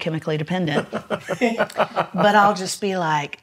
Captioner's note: laughs